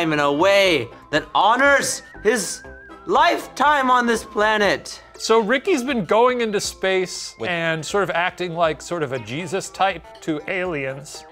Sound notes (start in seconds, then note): none